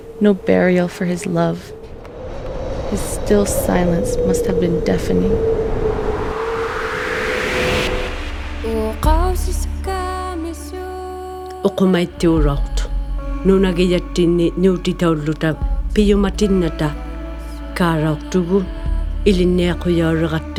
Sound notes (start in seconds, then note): 7.3 melancholy music; 10.3 grandmother speaking in Inuktitut